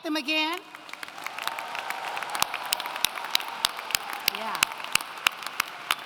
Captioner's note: applauding